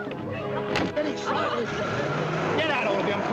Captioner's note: car revving